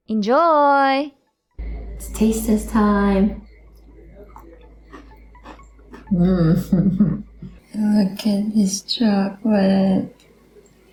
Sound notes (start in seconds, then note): 4.3 chuckles